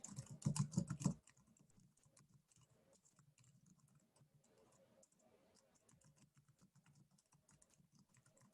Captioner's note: typing